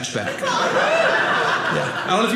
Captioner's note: audience laughing